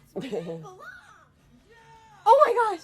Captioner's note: pause